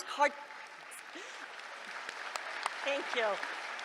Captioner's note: applause